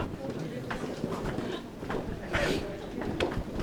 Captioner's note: footsteps